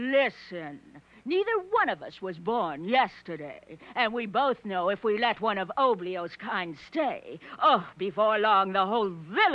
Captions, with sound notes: Neither one of us was born yesterday. And we both know if we let one of Oblio's kind stay, (gasping) before long, the whole village will be crawling with--